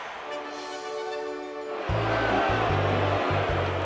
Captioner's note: crowd boos